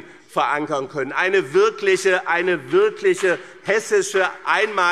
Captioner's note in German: Beifall BÜNDNIS 90/DIE GRÜNEN